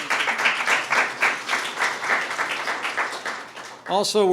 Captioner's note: applause